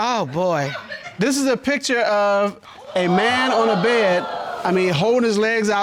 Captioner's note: audience exclaiming